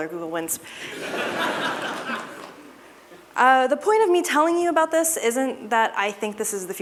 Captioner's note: laughter